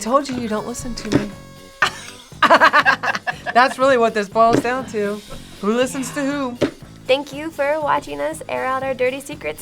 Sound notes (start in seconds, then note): 1.8 both laugh